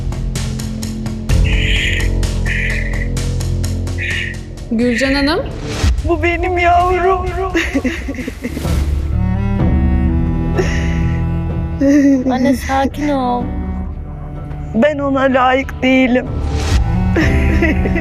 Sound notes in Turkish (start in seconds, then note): 7.5 kahkaha; 12.9 kahkaha